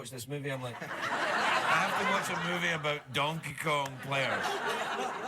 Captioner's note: laughter